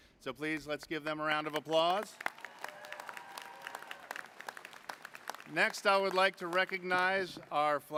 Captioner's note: applause